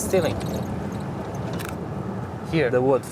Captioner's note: camera shutter clicks